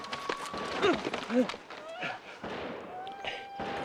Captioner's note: grunting; gun firing